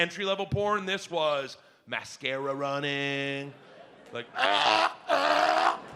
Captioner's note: gags